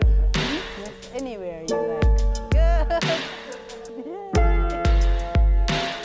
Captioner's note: overlapping background conversations continue